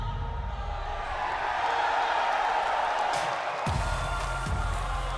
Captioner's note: cheers & applause